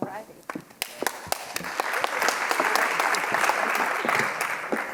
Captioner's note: audience clapping